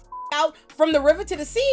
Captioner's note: beep